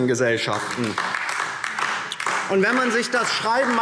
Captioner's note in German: Beifall DIE LINKE